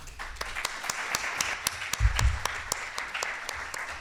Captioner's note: applause